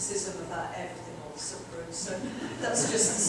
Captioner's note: audience chuckling